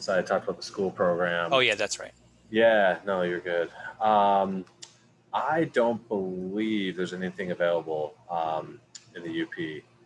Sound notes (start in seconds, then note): none